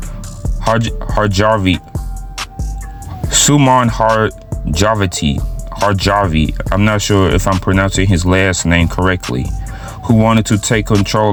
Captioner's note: mispronounations